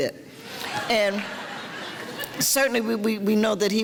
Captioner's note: audience laughter